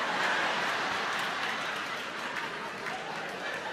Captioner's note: crowd laughing